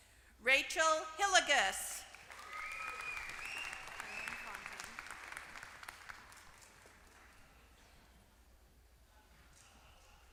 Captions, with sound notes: Rachel Hillegas. >> [APPLAUSE]